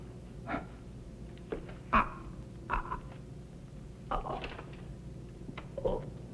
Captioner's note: choking